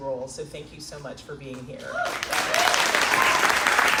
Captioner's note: crowd Cheering